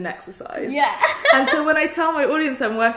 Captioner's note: laughs